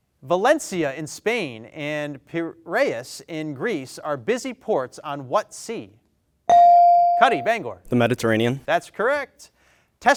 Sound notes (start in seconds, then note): 6.5 bell dings